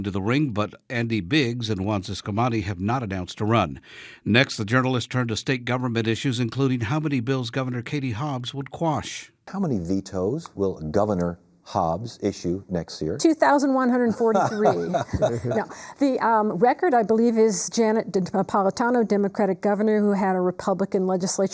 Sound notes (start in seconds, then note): 14.0 laughing